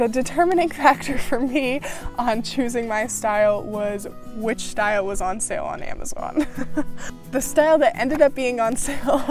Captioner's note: laughs